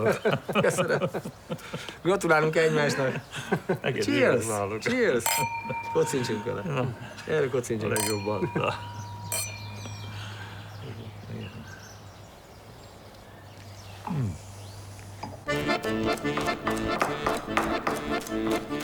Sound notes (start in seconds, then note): 0.0 laughs; 2.3 speaking in foreign language; 5.2 glasses clinking; 8.8 birds chirping; 15.5 bright upbeat music